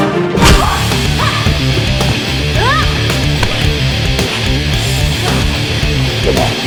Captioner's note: tense music; upbeat rock music; both grunting